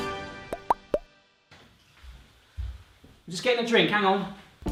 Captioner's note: dramatic music; popping sound